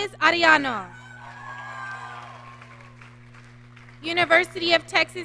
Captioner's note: audience cheering